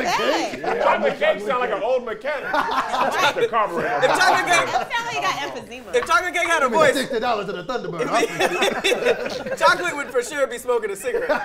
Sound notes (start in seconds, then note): 2.3 group laughs; 8.3 group laughs